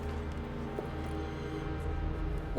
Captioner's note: none